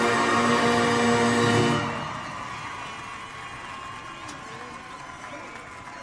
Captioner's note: audience cheers and applauds